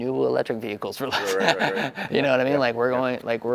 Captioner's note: laughter